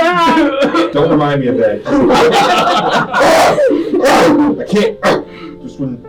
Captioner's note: screaming and grunting